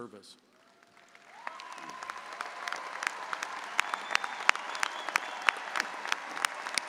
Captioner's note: audience applauding; audience cheering